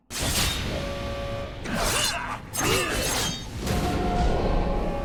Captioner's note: weapons clanging; dramatic music